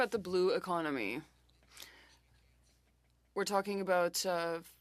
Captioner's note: speaking French